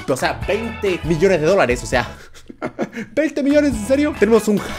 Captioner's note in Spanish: risa incomoda